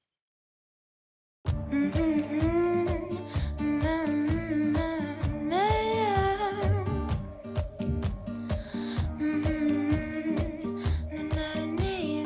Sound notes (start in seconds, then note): 1.6 humming; 1.9 upbeat music